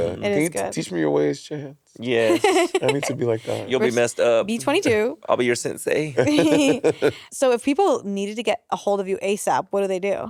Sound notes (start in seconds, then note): 2.2 laughing; 6.1 Monét and Courtney chuckling